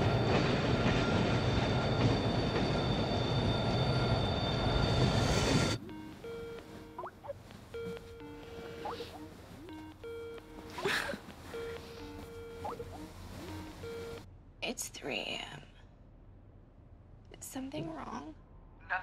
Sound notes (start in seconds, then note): 5.7 Skype notification resonating